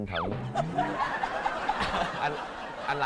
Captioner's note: laugh